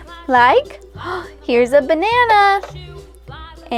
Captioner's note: gasps